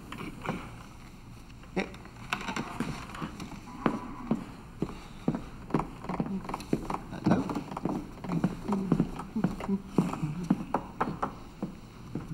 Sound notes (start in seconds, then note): 9.0 hums jauntily